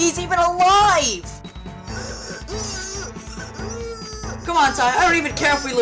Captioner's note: pathetic wheezing